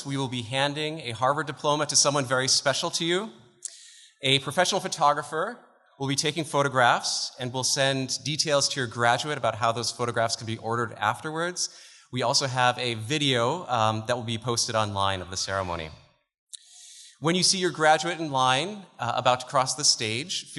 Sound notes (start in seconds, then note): none